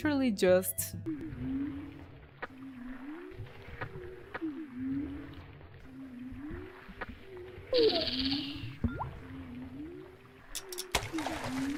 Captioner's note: fishing sounds